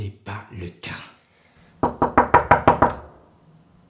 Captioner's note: there is a knock on the door